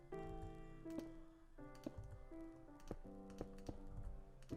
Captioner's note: sound of blocks placing with soft piano music in background